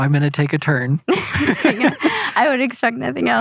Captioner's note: laughs